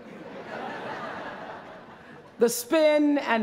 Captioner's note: laughter